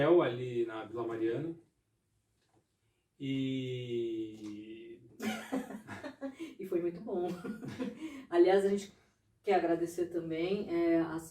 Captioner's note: laughs